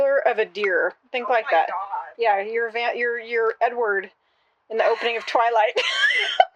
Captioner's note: laughter